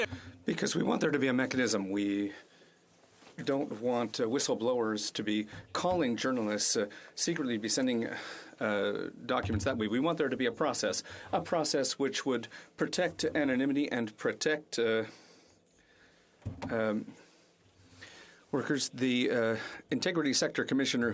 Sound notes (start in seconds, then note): 1.5 speaking French